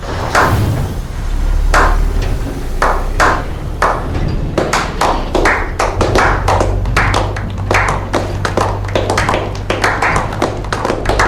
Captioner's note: slow clap